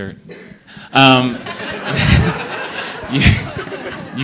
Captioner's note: laughter